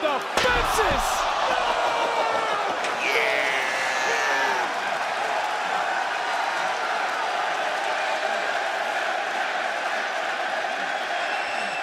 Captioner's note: crowd cheers